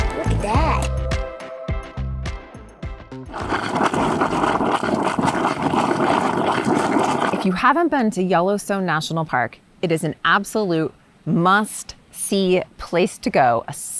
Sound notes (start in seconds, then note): 3.3 water gurgling